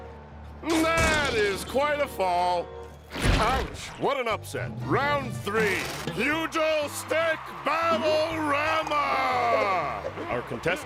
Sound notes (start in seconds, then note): 2.8 splat